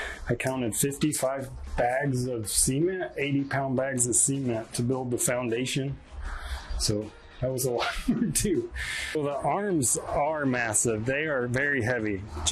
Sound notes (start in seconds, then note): 7.7 chuckles